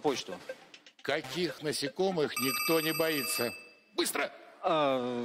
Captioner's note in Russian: звонок